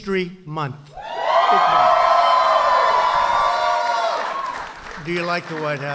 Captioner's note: applause